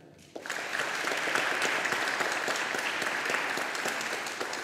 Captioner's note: audience applauding